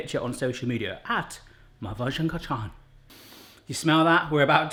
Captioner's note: inhaling